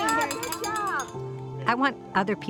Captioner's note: bell ringing